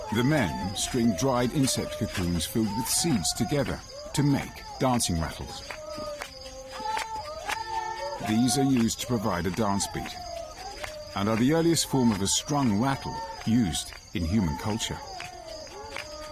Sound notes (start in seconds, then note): 0.0 insects chirping; 0.0 singing in foreign language; 7.3 insects chirping; 7.3 singing in foreign language